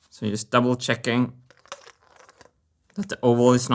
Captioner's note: marble rolling